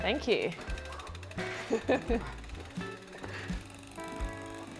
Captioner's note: bike clicking